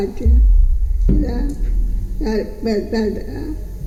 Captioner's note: speaking spanish